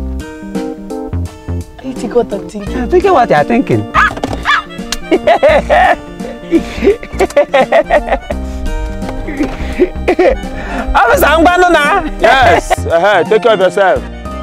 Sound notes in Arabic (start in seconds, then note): 7.6 ضحك